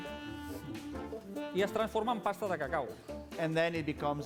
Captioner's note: non-english speech